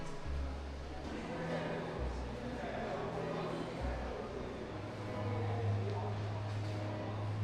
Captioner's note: people chattering